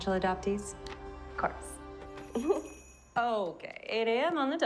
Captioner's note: small laugh